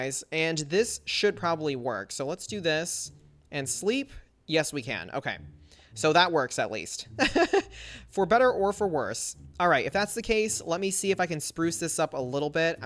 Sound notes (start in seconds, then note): 7.2 laughs